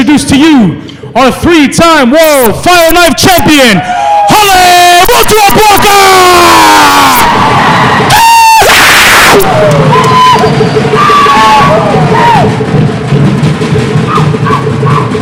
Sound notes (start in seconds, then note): 7.0 cheering; 13.0 drums playing